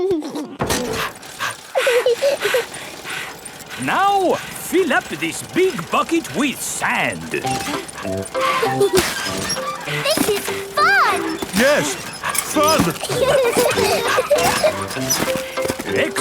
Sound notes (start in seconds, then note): 0.1 chuckles; 0.1 daddy pig panting; 2.1 mummy pig panting; 2.1 peppa chuckles; 8.3 mummy and daddy pig panting; 8.3 peppa and george laughing; 11.8 straining; 13.4 peppa and george laughing